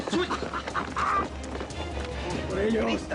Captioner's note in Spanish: Carcajadas